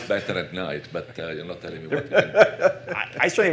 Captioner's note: laughter